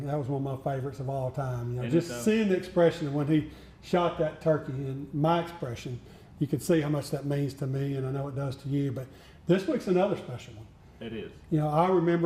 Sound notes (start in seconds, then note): none